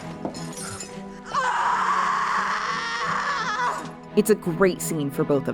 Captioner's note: Eleanor screaming